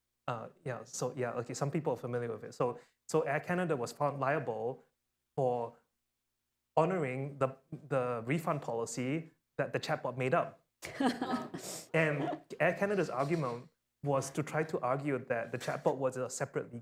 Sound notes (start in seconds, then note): 10.8 laughter; 15.6 laughter